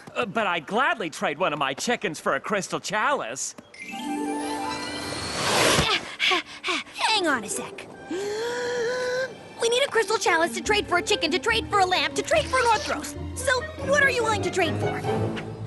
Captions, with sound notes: But I'd gladly trade one of my chickens for a crystal chalice. (panting) Hang on a sec. (big inhale) We need a crystal chalice to trade for a chicken to trade for a lamp to trade for an Orthros. So what are you willing to trade for?